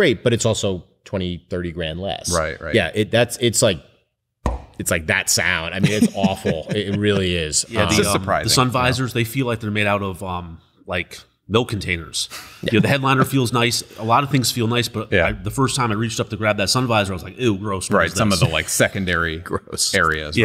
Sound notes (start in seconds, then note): 4.1 bang; 5.8 laughs